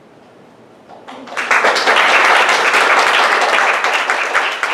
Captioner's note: applause